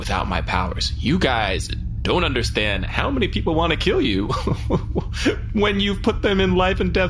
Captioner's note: nervous laughter